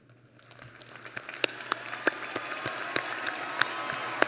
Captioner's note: applause